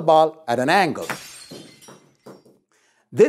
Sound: breaking glass

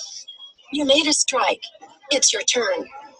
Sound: voiceover

